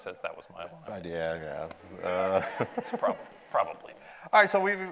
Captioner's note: audience laughs